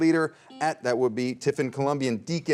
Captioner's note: buzzer rings